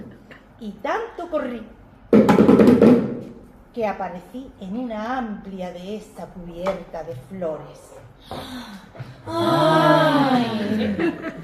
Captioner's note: sigh